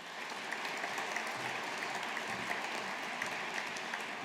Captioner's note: audience applauding